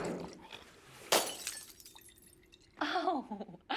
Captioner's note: glass shatters; chuckles